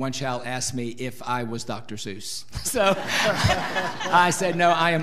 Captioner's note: audience laughing